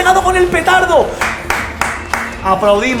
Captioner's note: claps in Spanish